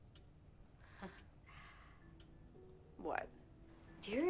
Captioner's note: Allie laughs softly